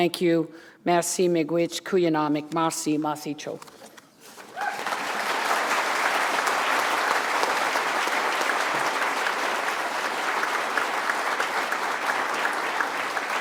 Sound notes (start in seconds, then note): 3.4 foreign language; 9.9 applause